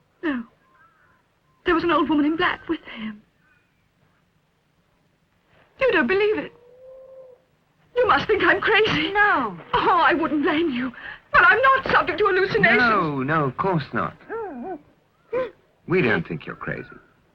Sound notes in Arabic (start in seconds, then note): 15.3 إلسا تبكي